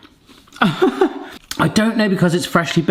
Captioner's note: giggles